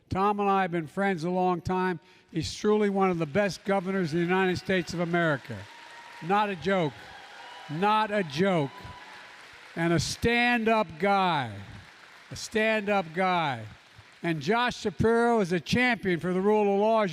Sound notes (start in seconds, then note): 6.1 applause